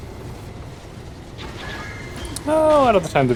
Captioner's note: angry Bunny Screeching